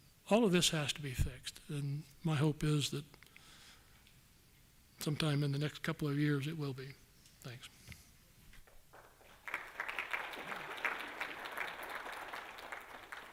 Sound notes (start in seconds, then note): 8.7 applause